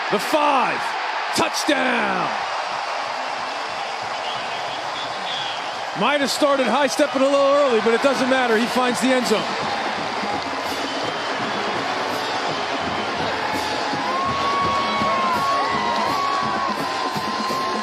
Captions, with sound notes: The five Touchdown! *Cheering* Might've started high-stepping a little early, but it doesn't matter, he finds the endzone *Band playing and crowd cheering*